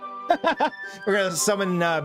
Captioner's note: laughs